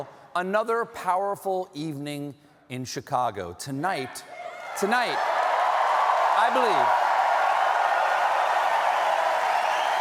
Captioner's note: cheering